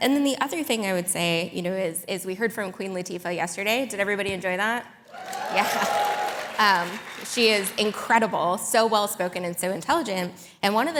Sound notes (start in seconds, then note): 5.1 audience applauding